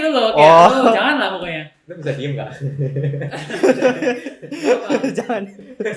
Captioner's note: laughter